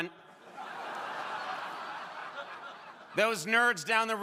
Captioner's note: crowd laughing